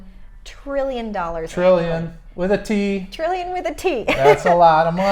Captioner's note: laughs